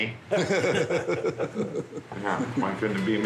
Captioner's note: laughs